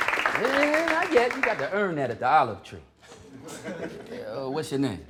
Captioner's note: applause; laughter